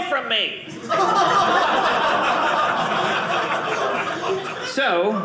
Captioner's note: audience laughing